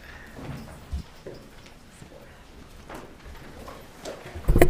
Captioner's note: objects clattering